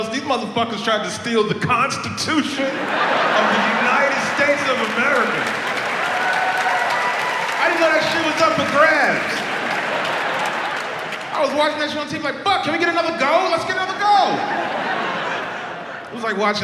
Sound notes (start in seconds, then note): 3.3 audience laughs; 7.0 audience applauds and cheers; 10.2 audience laughs; 14.2 audience laughs